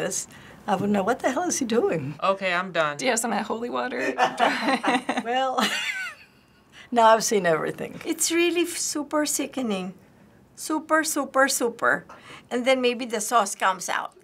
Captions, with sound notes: I wouldn't know what the hell is he doing. - Okay, I'm done. - Do you have some of that holy water? (laughs) - Well, (laughing) now I've seen everything. - It's really super sickening. Super, super, super-- and then maybe the sauce comes out.